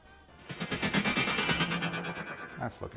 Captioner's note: metallic sound effect